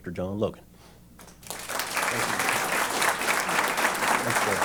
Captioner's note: applause